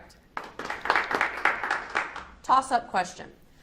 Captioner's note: audience applauds